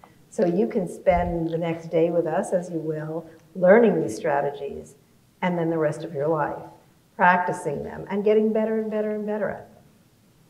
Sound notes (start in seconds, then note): none